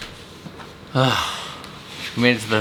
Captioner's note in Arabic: تنهد